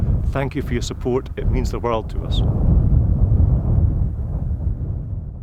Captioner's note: wind gusting